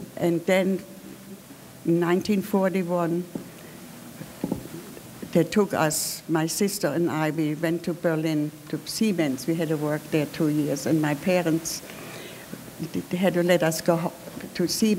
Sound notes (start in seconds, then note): none